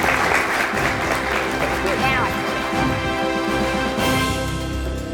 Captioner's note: applause